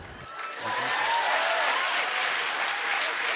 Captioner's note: cheers and applause